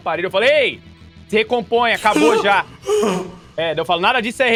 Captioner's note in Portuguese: Suspiros